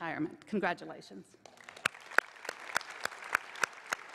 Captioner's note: applause